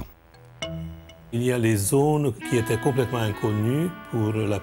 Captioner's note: French spoken audio